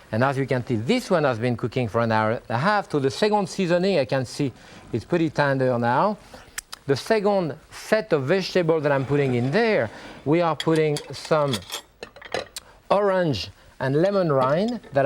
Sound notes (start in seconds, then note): 6.5 lips smacking